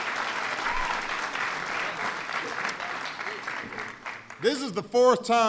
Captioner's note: applause